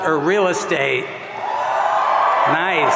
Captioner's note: audience cheering